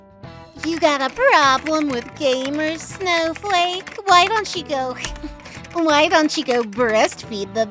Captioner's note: snickers